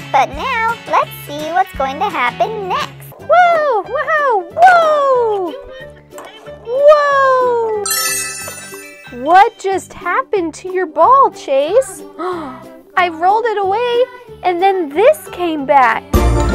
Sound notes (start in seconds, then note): 7.8 magical chime; 12.2 gasp